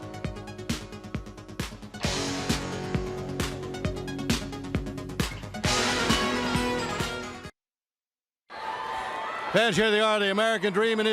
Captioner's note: crowd cheering